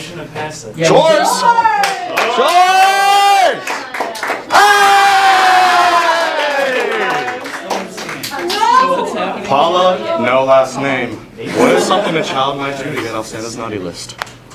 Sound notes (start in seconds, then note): 1.5 clapping & "Chores!"; 3.4 some clapping; 4.5 cheering; 6.1 clapping